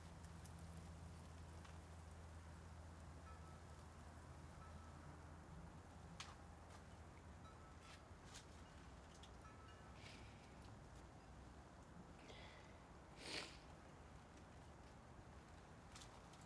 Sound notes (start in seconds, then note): 4.0 wind chimes gently ringing; 13.1 sniffling